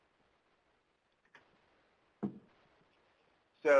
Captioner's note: silence